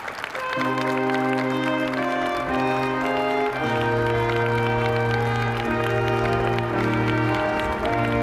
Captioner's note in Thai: ปรบมือ